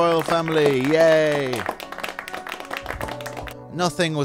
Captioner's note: scattered applause